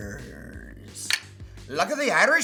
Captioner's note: mugs clink